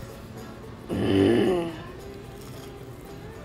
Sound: grunting

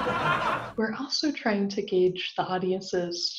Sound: audience laughing

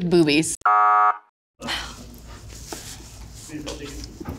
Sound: buzzer buzzing

